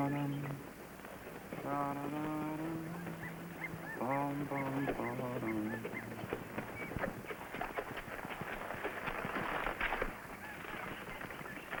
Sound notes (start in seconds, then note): 1.6 birds chirping